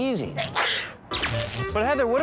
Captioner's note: sneeze